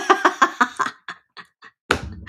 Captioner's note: laughs